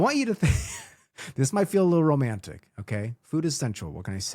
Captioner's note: laughs